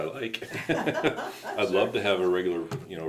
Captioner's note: both laugh